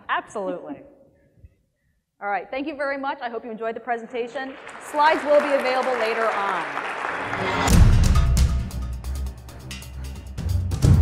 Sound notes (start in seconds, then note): 4.3 applause; 7.3 suspenseful music